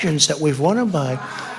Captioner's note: crowd